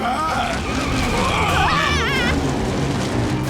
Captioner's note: screaming